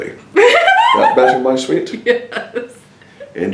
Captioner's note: laughs